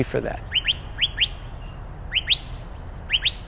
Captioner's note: bird calling